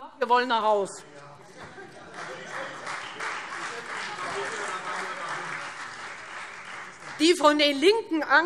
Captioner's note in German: Beifall Freie Demokraten